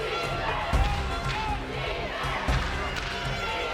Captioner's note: crowd is yelling defense!